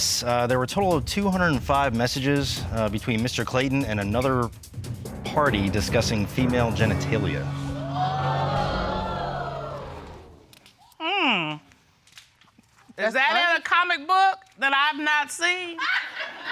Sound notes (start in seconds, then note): 7.4 audience gasping; 15.9 audience laughing